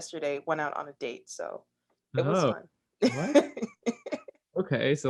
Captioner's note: laughs